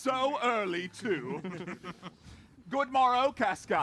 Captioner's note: laughs; laughter